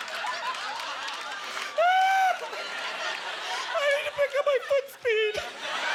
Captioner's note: sobbing; audience laughter